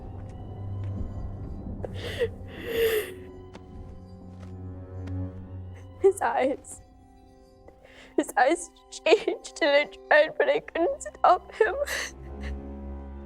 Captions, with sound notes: (patient pants) - His eyes, his eyes changed. And I tried, but I couldn't help him.